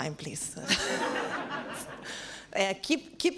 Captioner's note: laughs